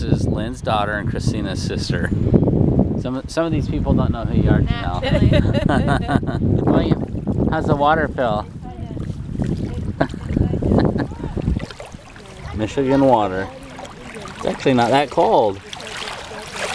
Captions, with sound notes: this is Lynn's daughter and Christina's sister. Some of these people don't know who you are, Jenelle. (laughing) William, how does the water feel? (laughing) Michigan water, it's actually not that cold.